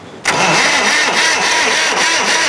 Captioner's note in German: Gequältes Zündgeräusch